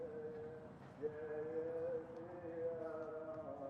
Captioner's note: sounds of prayer